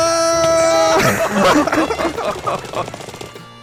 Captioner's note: regretful laughter